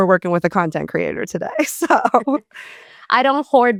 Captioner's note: laughs